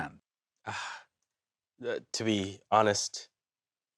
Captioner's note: sighs